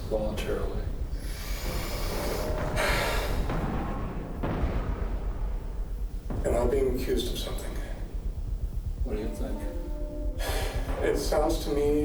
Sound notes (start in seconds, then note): 1.3 sighs; 1.5 dramatic music